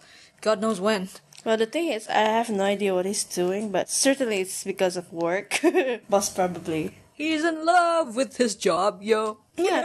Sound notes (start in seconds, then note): 5.5 chuckles